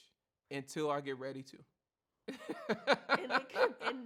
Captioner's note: laughs